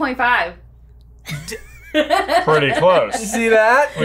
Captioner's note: laughs